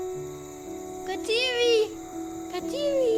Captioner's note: transition, crickets, night sounds